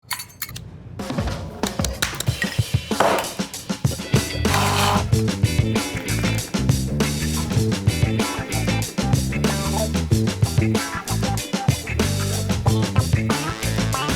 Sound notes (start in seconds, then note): 0.1 upbeat music; 4.0 blender whirling